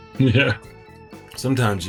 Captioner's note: men chuckling